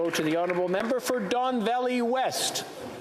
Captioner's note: some Applause